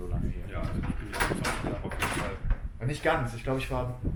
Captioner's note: door noises